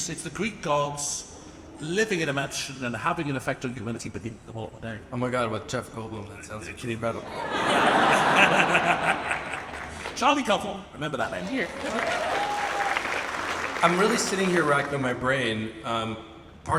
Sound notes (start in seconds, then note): 7.2 audience laughs; 7.2 laughs; 11.3 audience applauds and cheers